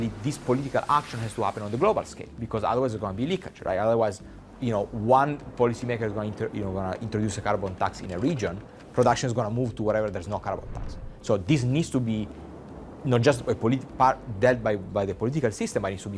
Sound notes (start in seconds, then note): 0.8 sail whooshing; 4.5 wind whooshing; 10.2 wind whooshing; 10.5 screen whooshing